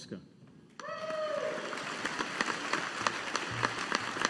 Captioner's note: audience applauding